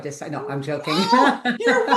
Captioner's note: laughs